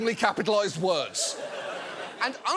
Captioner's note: audience laughs